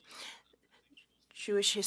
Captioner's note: speaking French